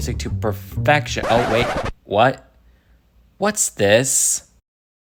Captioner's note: record scratch